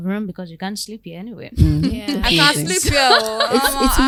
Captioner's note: laughter